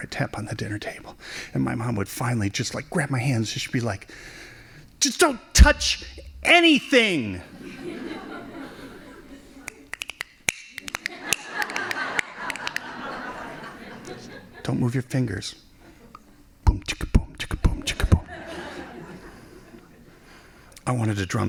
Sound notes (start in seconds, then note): 9.6 snapping fingers; 10.6 laughing; 17.8 laughing